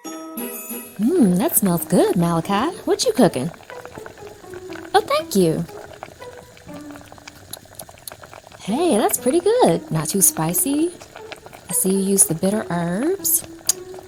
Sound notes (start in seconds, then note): 4.3 pot bubbles; 4.3 soft music; 13.4 smacks lips